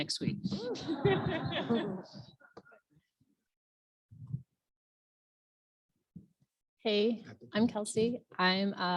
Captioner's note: laugh